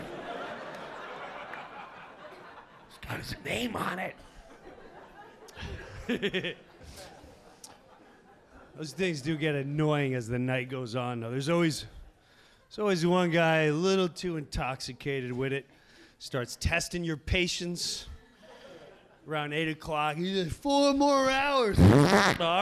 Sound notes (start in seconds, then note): 0.0 audience laughing; 4.4 laughs